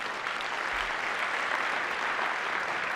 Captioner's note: applause